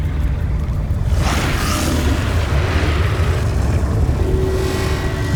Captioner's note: screeching roar; hollow echo sound